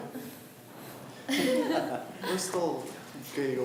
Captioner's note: laughs